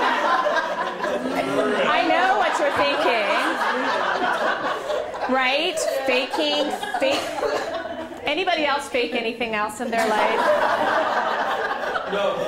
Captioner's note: laughter